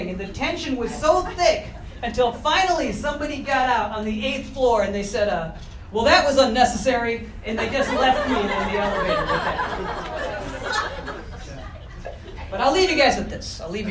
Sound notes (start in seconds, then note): 10.3 audience laughter